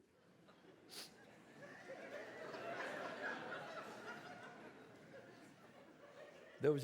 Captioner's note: audience laughs; sniffs